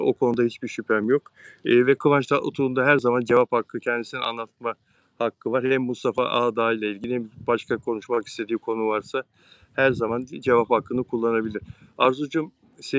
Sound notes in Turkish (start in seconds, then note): none